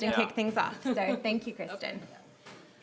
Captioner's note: laughter